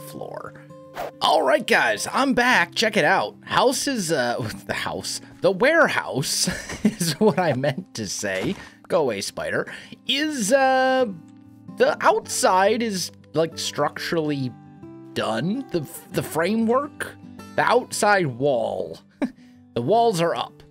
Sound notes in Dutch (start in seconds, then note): 6.4 lacht